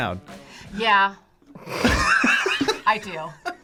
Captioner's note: both laugh